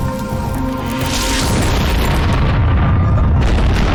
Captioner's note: explosions